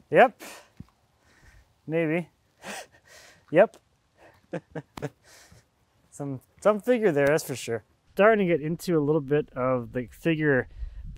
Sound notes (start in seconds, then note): 4.2 laughs